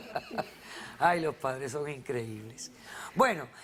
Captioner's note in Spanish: Risas